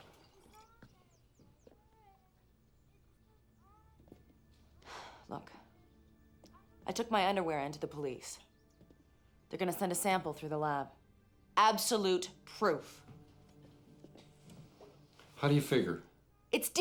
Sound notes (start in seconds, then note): 4.8 sighs